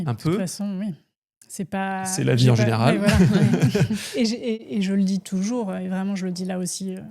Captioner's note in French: rires